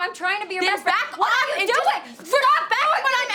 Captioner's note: Ashley shouting